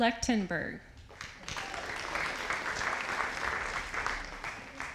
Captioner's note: audience applauding